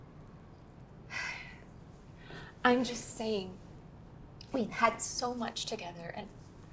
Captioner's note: Ava sighing